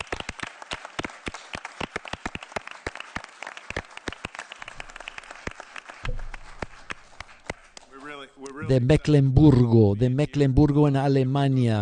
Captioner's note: applause